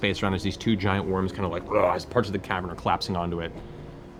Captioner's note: growls